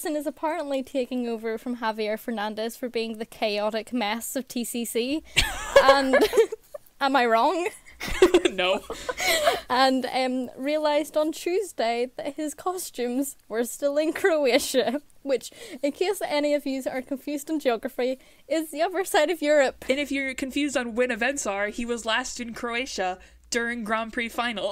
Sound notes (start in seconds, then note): 5.4 hosts laugh